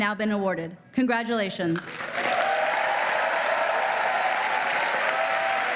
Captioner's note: applause